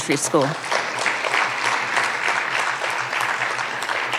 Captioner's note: audience applauding